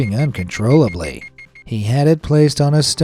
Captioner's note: machine beeping